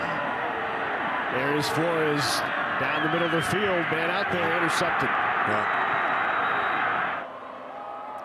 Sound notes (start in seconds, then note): 5.3 fans cheer